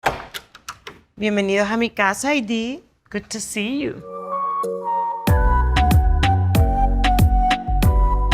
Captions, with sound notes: - [speaking in foreign language] Good to see you. [upbeat music]